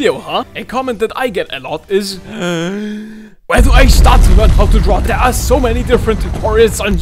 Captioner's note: inhale